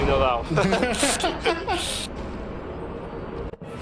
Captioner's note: both laughing